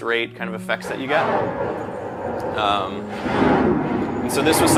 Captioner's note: water rippling